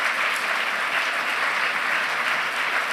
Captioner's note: applause